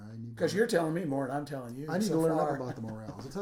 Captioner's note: laughing